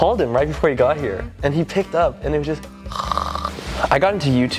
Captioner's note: snores